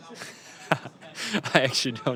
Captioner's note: laughs